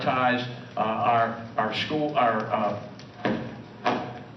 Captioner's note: gavel